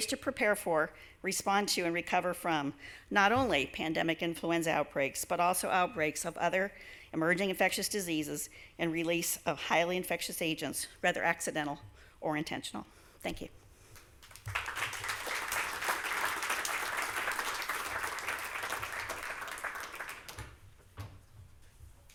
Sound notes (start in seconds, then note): 14.2 applause